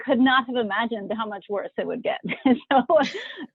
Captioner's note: chuckles